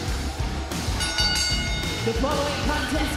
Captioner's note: bell rings